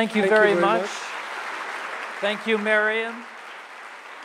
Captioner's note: audience clapping